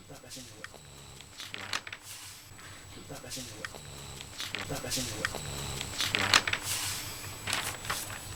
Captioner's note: snoring sound